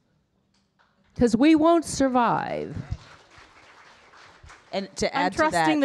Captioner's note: audience applauding